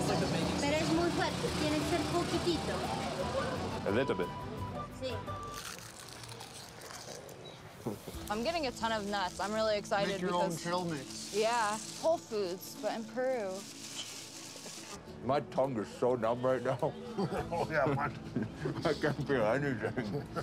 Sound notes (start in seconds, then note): 17.0 laughing